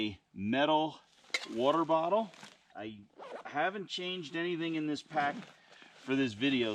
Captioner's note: zipper noise